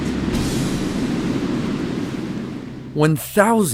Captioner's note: sea roaring